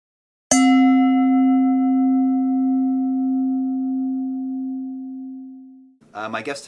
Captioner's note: bell dinging